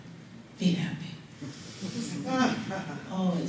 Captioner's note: laughter